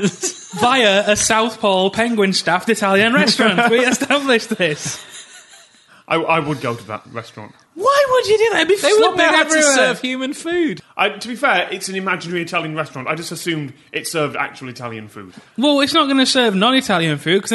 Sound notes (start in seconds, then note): 4.9 wheezing laughter